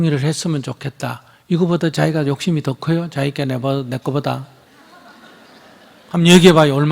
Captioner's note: audience Laughter